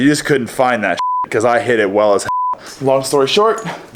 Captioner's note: beep